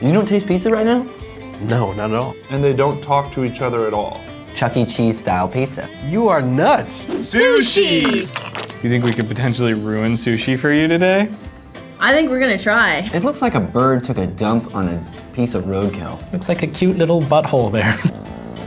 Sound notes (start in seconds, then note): 7.4 voiceover; 8.0 squirting